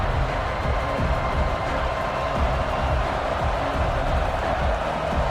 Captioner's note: crowd cheering